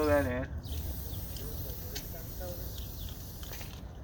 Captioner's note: spray whistling